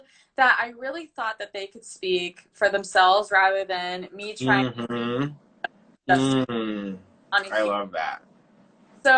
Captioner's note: audio breaking up